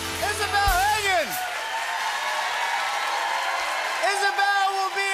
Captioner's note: cheering, whistling, and applause